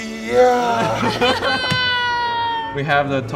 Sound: laughter

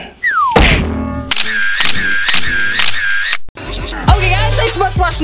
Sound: camera snapping

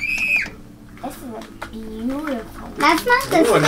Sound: squeals

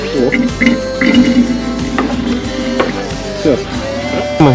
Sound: I hear a characteristic sound as if someone has pissed

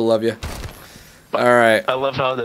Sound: shoots gun

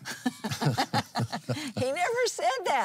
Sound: laughs

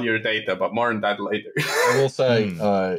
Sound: laughter

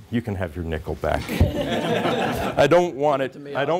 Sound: chuckling

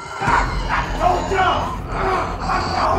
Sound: zombie screeches

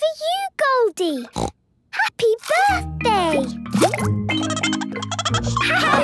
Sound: snorting; Goldie giggling

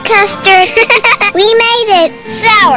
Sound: child's laughter; evil laughter

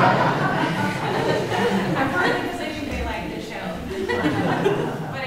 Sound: audience laughs

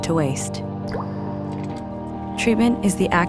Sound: water dripping

